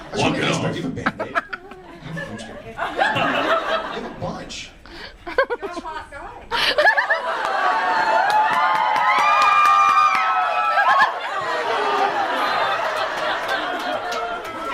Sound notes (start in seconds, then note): 0.7 audience laughs; 6.5 audience laughs and screams; 12.5 audience laughs